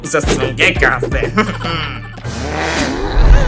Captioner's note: chuckle